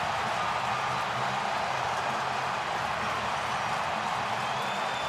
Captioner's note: crowd cheers